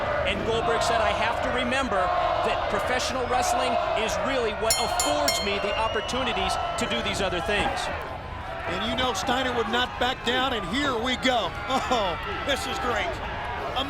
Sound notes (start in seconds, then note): 4.7 bell rings